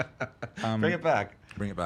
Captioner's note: laughing